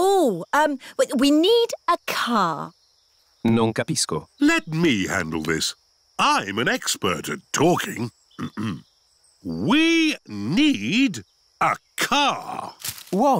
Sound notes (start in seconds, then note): 3.6 replies in italian